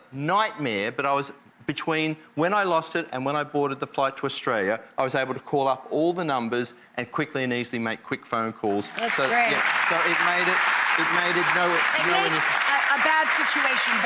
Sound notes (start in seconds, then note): 10.7 audience applauding